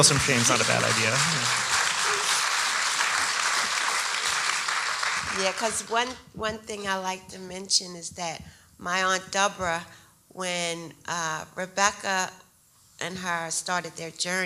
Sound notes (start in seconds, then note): 2.3 audience applauding